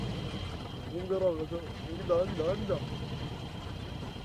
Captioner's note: foreign language